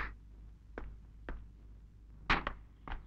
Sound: footsteps descending

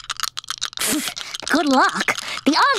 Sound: rattling; scoffing

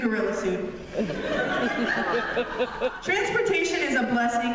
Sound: laughter

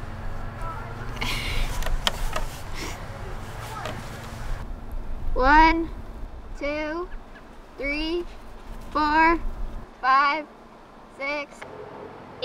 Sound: laughs

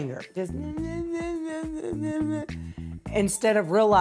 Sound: mimics crying

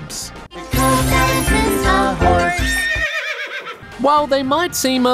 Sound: horse neighs

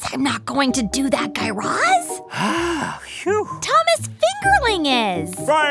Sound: sigh of relief

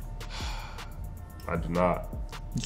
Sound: exhales

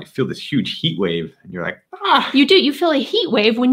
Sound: exclaims

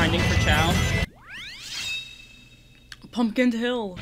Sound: shing!

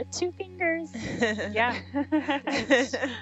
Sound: laughing

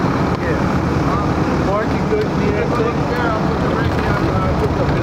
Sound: crew murmurs

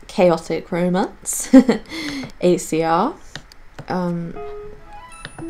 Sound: giggles

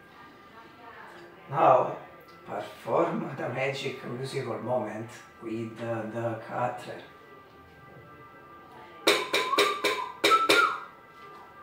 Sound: whistle

